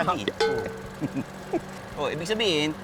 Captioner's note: both giggling